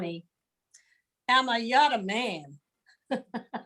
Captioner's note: chuckles